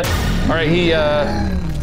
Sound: boom

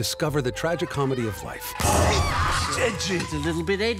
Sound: gun shot goes off

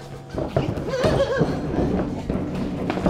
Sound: squealing

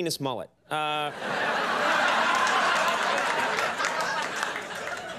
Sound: audience laughing

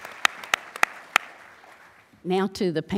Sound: applause

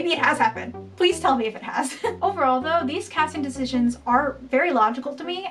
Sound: laughing

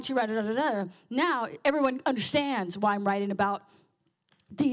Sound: none

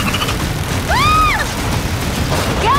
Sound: screams

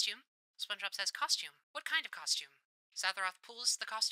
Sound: radio Filter

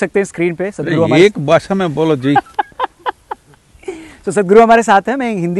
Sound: laughs

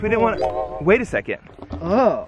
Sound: electronic jingling

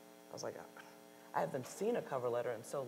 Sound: scoffs

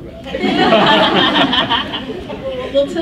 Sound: laughs

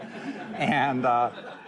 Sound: laughter

